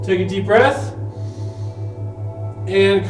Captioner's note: inhales